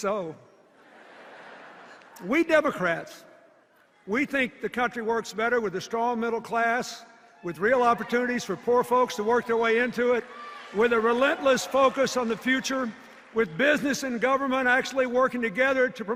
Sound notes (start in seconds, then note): 0.0 laughter and cheers; 0.8 laughter